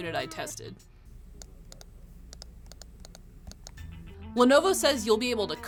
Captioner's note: touchpad clicking